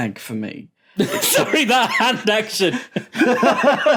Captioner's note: laughs; laugh